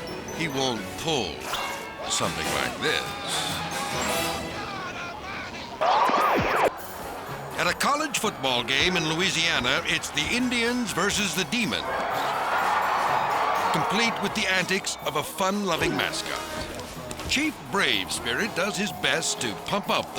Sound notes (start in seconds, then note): 2.7 screaming; 6.0 logo whooshes; 12.7 crowd cheering